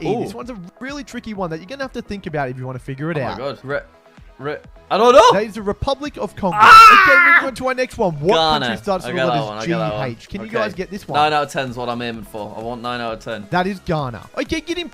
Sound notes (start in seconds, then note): 6.5 shrieking